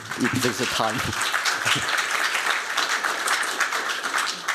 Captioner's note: applause